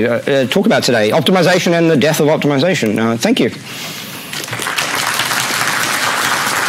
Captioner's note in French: Applaudissements